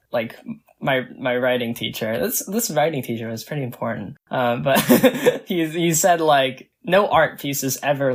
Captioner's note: laughs